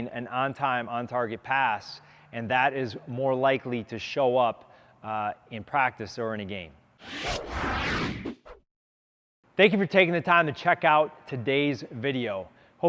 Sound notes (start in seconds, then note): 7.0 air whooshing sound